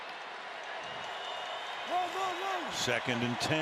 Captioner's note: crowd cheering